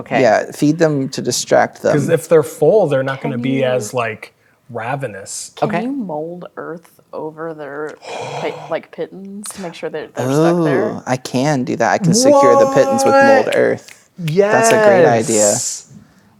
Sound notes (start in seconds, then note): 8.0 gasps; 13.5 snapping fingers